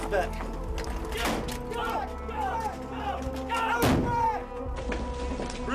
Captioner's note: indistinct shouting